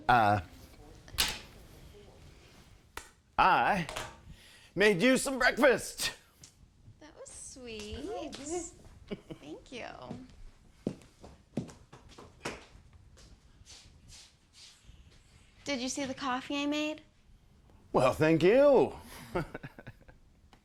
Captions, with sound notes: I made you some breakfast. - That was sweet. - Come on, babe. - Thank you. (footsteps clop) Did you see the coffee I made? - Well, thank you. (chuckles)